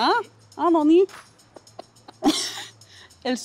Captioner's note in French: bruits de baisers